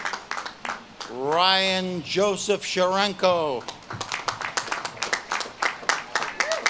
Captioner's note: audience claps and cheers